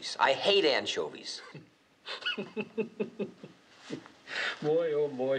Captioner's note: laughing